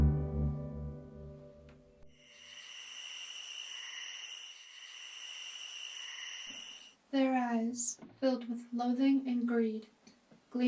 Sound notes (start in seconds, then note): 2.2 crickets chirp